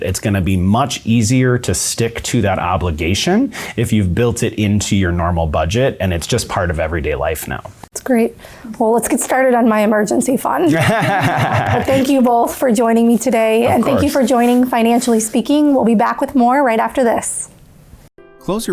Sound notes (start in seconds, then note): 10.6 laughing